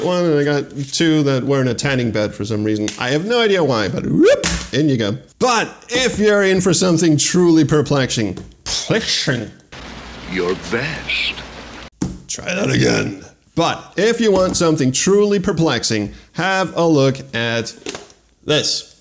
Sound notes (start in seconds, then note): 4.3 whoop!; 8.7 lisping